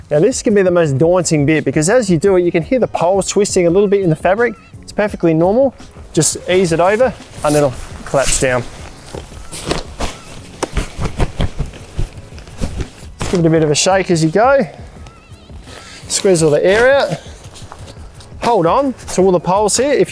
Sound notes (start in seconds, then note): 9.1 polyester rustles